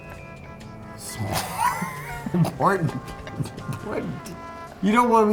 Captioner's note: laughs